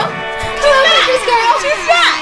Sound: cheering

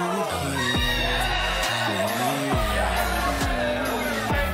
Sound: guests cheer; guests shout

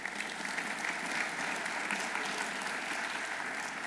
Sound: audience applauding

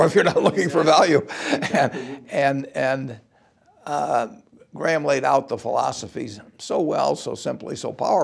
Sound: laugh

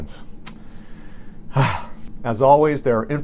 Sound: sighs

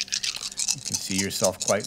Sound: dice rattling

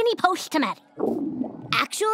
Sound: stomach growling

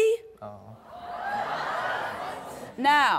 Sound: audience gasps

